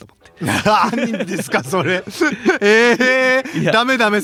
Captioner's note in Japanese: 笑い